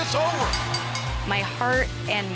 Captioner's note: bell ringing